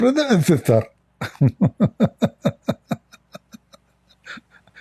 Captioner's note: Ketawa